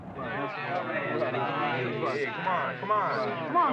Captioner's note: indistinct chatter